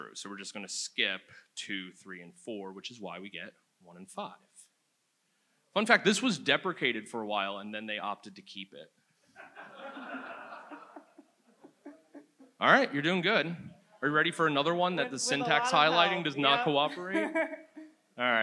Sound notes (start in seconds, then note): 9.4 audience laughs